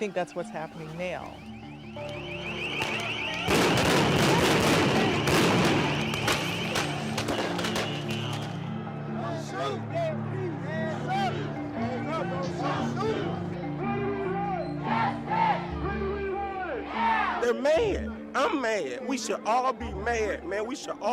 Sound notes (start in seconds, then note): 2.1 alarm blaring; 3.4 explosions; 9.5 indistinct shouting